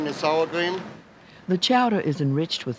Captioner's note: voiceover